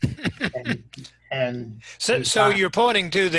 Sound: laughing

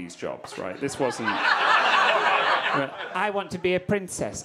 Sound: audience laughing

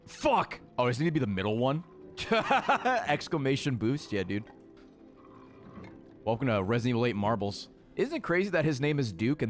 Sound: laughs

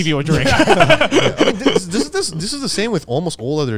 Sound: all laughing

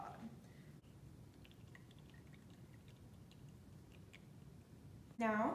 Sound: water dripping

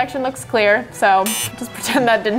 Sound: beep

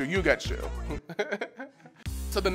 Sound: laughter

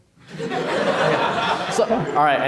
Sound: audience laughing

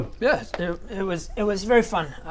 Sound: none

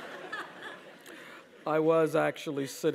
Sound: laugh

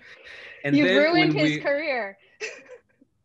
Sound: laughing

